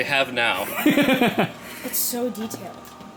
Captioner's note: laughs